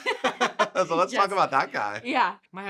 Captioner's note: laughing